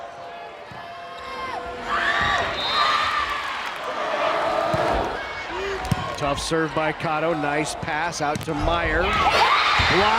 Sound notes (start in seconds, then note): 2.7 players yelling; 3.8 crowd chanting